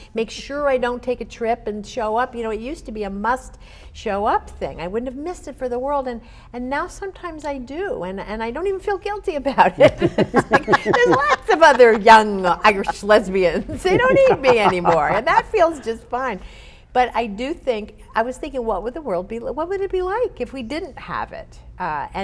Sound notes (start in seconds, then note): 9.7 group laughs